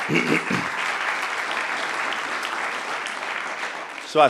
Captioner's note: applause